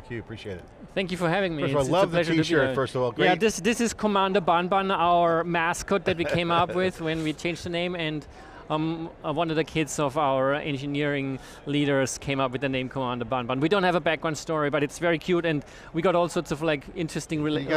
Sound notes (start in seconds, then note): 6.9 laughing